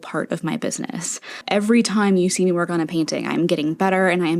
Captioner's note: inhale